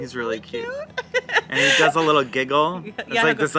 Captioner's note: laughs